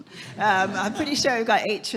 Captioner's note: audience laughing